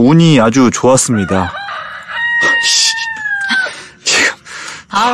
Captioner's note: sound of a chicken crowing